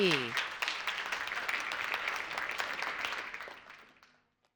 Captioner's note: audience applauding